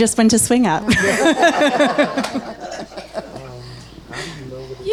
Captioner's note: laughs happily